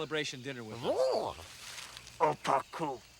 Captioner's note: Tasha babbles